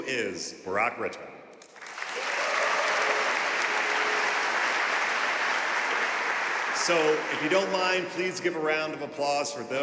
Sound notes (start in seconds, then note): 1.7 audience cheering and applauding